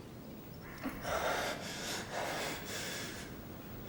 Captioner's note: Lennox panting